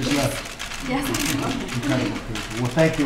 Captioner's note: laughs